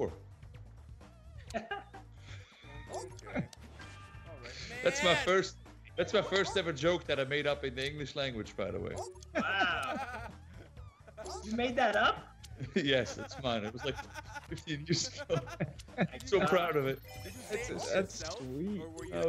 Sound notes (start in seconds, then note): 2.8 laugh; 9.2 laugh; 12.8 laugh